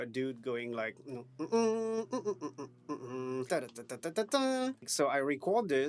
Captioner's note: hums random melodies